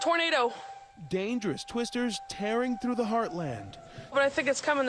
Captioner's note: sirens